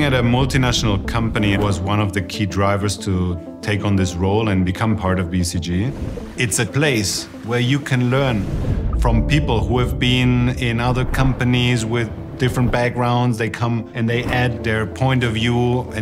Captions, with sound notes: Working at a multinational company was one of the key drivers to take on this role and become part of BCG. (water babbling) It's a place where you can learn from people who have been in other companies with different backgrounds. They come and they add their point of view